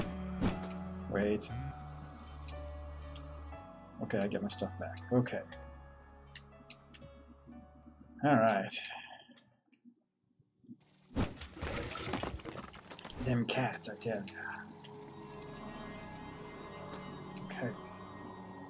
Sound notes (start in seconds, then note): 0.0 humming along; 8.1 sighs